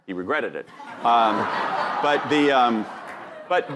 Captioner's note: audience laughing